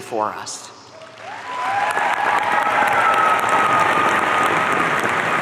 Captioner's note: audience cheering